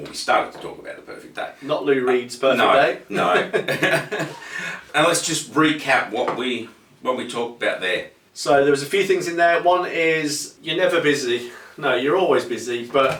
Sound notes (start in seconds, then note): 3.1 laughing